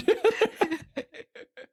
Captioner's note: laughs